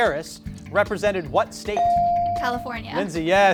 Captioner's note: beep